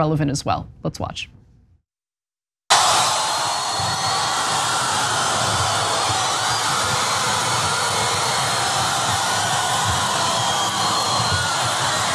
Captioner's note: applause